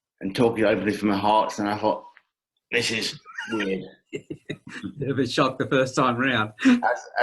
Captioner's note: laughing